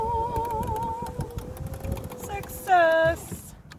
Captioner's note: happy noises!